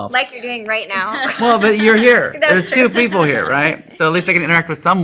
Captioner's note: laughter